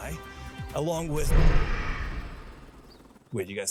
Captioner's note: roar